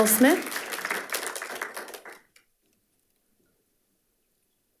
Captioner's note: audience clapping